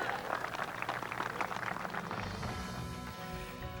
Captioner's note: applause